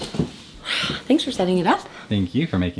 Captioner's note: sighs